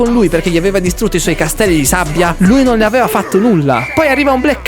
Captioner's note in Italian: risate